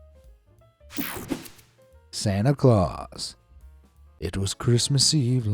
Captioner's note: air fizzing